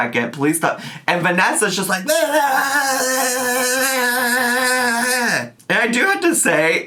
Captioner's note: imitates rowdy yelling